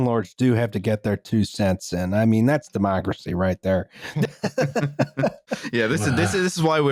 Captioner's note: laughter